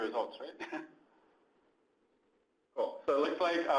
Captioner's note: laughs